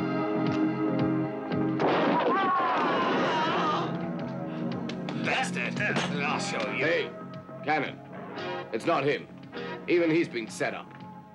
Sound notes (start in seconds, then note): 1.5 man groans; 1.8 gun blasts